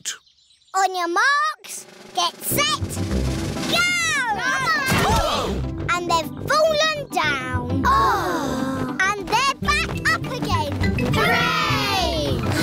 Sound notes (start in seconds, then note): 5.2 all groan